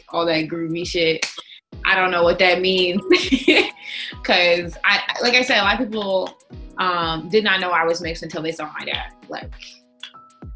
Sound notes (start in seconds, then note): 3.3 laughing